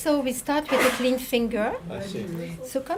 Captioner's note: sneezing